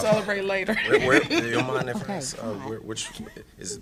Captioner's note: laughter